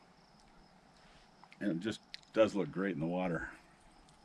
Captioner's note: crickets chirping